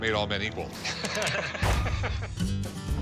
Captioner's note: both laughing